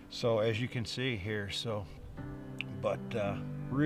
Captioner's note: none